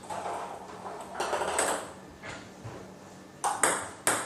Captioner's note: ball ping pong hitting continues